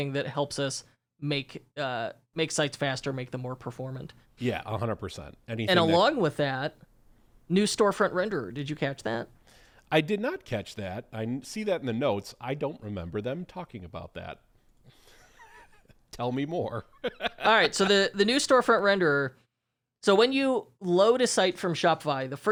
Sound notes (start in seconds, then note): 16.9 laughs